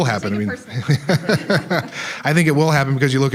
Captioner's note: all laughing